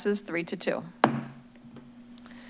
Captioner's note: gavel bangs